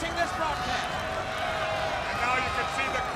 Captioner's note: crowd cheering